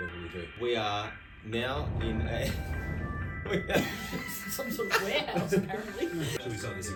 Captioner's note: loud rumbling